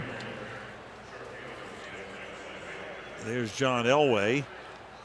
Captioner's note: pa announcement